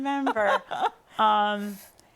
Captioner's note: laughter